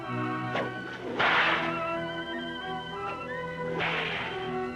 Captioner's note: cracking whip